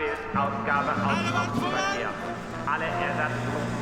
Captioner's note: speaking german; shouting in german